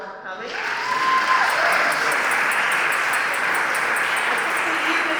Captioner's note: applause